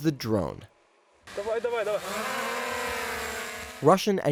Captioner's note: soldier speaking a foreign language